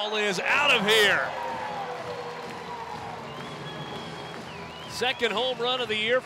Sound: crowd cheering and clapping

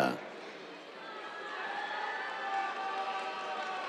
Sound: cheers, applause

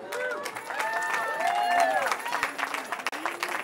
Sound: cheering

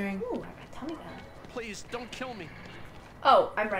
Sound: game audio

